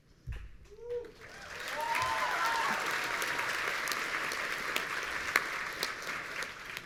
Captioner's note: audience cheering